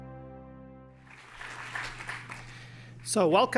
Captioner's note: applause